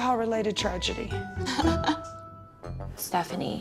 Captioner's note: chuckles